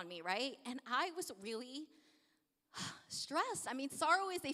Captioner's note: sigh